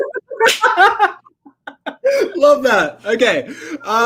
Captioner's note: both laugh